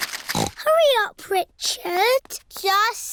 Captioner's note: snorts